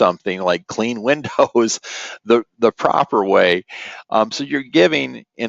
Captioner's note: chuckles